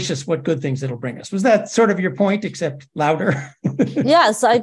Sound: laugh

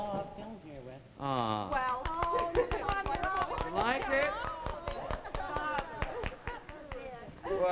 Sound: clapping

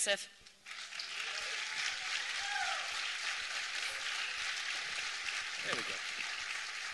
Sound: applause

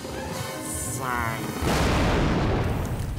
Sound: popping

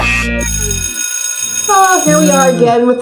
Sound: funk music; school bell rings

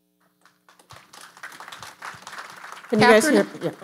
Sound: audience applauding

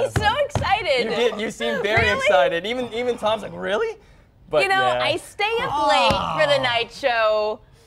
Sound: laughter

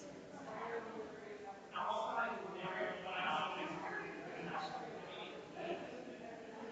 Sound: people chattering distantly continues

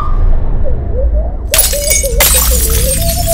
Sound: glass shatters

